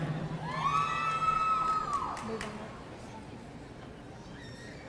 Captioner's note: audience cheering